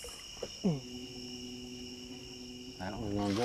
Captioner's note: grunt